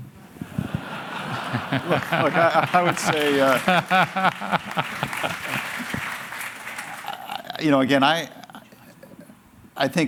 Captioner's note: laughter